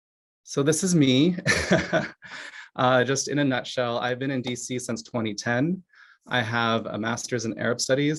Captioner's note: laughs